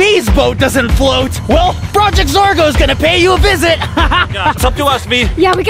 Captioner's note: laughing